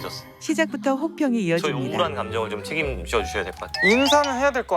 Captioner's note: cold feedback